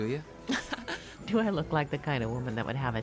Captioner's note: laughs